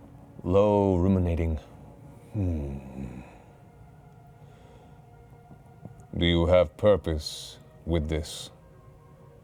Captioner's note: hums